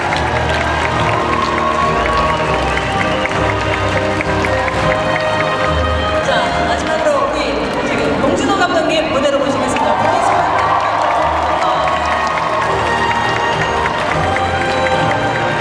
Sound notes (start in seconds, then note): 9.1 speaking Korean; 12.3 audience applauding